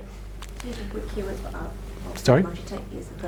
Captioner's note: audience talking